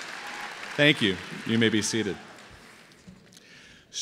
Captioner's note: applause